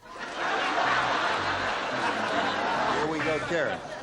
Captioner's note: laughter